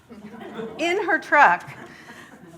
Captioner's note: audience laughs